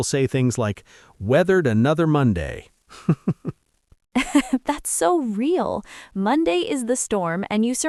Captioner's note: laughs